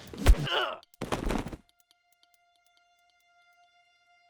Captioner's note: Manuel grunts